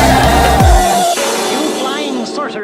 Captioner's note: bang!